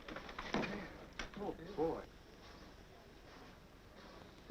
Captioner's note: chattering